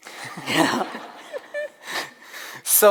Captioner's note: audience laughs